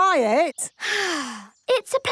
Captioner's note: sighs